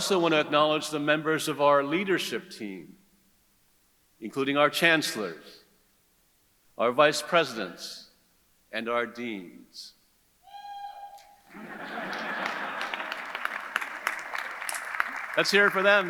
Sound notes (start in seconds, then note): 11.5 audience laughs; 11.5 audience clapping